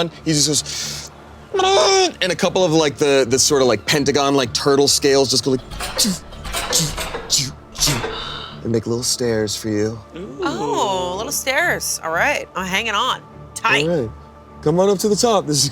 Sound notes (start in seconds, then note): 1.9 grunts; 5.4 imitating scales shifting